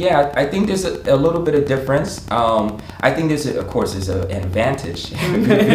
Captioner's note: laughing